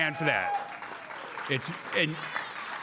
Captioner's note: crowd cheering